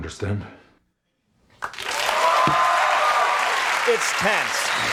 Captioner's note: audience applause